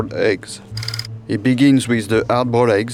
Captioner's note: slide rolling